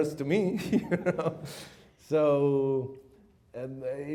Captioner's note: chuckles